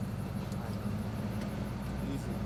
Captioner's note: car engine rumbling